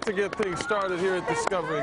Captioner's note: applause